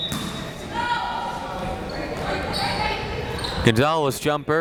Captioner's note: whistle tweeting; crowd members shouting